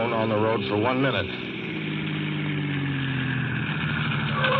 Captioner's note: train horn